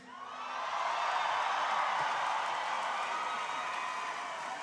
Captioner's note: crowd cheering